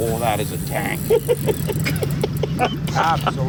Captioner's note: laughing